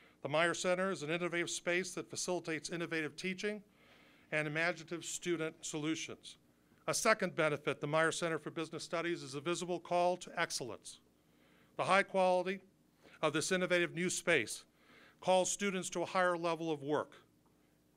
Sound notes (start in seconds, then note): none